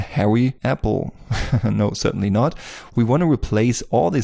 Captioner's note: laughs